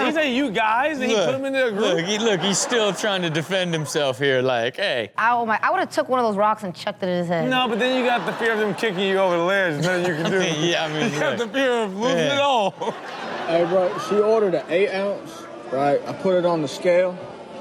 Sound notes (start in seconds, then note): 9.5 Rob laughs; 13.2 laughs